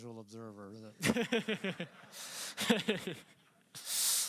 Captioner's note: laughter